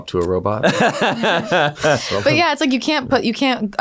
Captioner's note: laughing